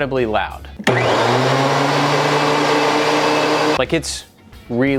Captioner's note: machine whirring